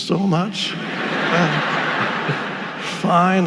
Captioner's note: audience laughing